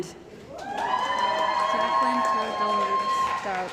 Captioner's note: cheering & Applause